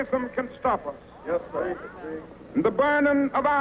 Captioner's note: voiceover